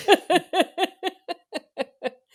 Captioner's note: laughs